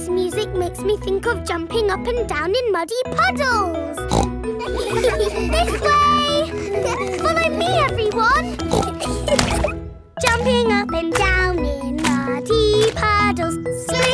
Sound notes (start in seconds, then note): 4.0 snorts; 4.6 giggles; 8.4 snorts; 9.6 giggling